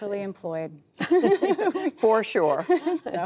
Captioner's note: laughter